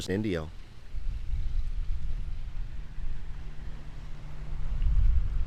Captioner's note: water splashing distantly